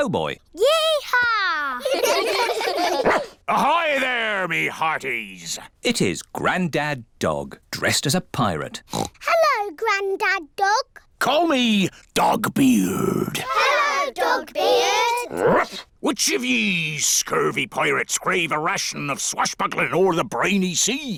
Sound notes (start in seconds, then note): 1.8 all giggle; 2.9 barks; 8.8 oinks; 15.3 barks